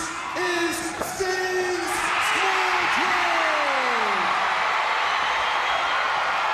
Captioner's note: crowd cheers